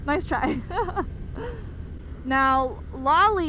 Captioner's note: laughs